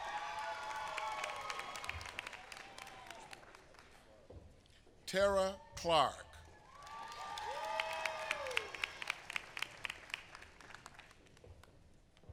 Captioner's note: applause